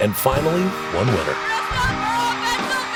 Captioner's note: cheering